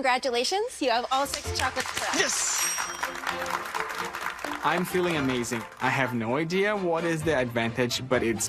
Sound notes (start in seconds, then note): 1.2 clapping; 2.3 checkmarks ding; 4.9 clapping